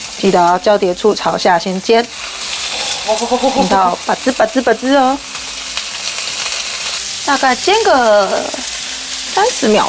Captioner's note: the frying pan is squeaking